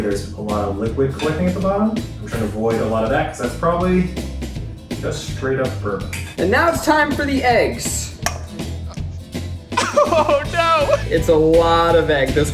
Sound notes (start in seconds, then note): 8.1 crack; 9.7 laughing